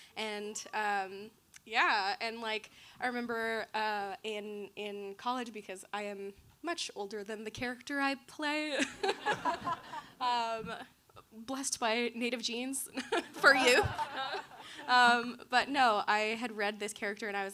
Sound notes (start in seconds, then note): 8.9 all laughing; 13.0 chuckles